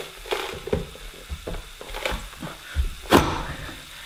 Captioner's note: onion crunches